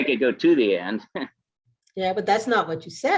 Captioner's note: laughs